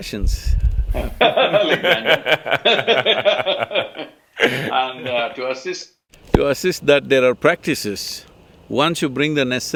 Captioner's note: both laugh